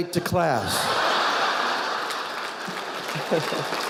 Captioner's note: audience laughing; audience applauding